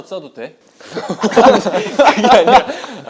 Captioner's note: laughing